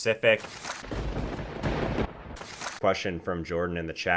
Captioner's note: thunder crackles